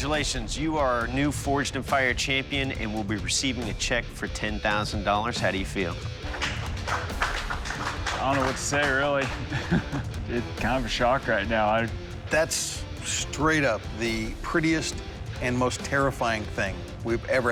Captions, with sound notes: You are our new "Forged in Fire" champion and will be receiving a check for $10,000. How do you feel? [applause] I don't know what to say, really. It's kind of a shock right now. That's straight-up the prettiest and most terrifying thing we've ever had on the show.